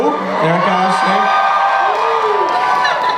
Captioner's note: audience cheers